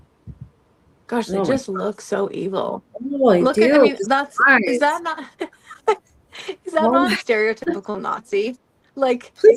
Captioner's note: laughter